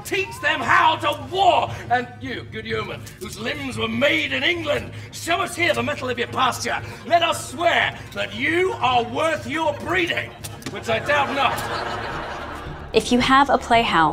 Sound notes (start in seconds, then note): 11.8 audience laughs